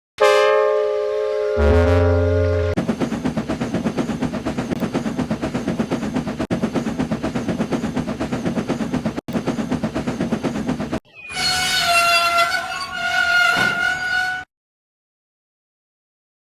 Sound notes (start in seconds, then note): 0.1 o face sound effect; 2.8 fast Chuffing